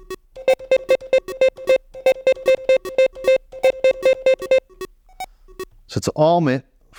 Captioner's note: beeping